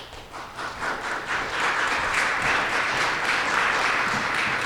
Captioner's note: audience applauding